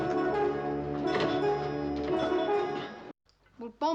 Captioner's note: straining